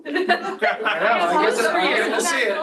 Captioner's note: laughter